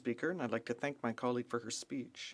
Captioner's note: speaking French